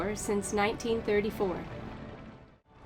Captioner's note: river burbling